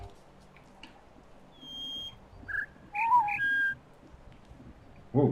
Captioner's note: bird chirps four notes; bird warbling ˩˧˩ ˥